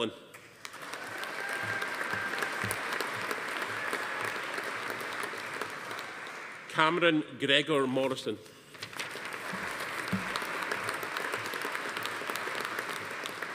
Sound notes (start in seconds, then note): 0.5 audience applauding; 0.7 attendee cheering; 8.8 audience applauding